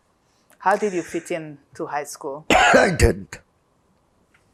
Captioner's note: coughing